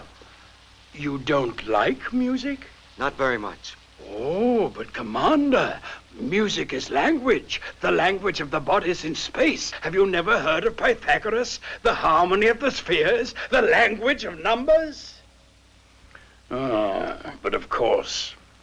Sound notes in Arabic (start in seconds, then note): none